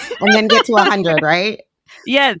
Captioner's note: laughing